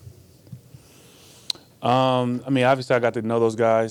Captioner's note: tongue clicks